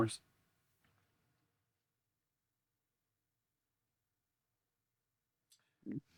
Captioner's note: silence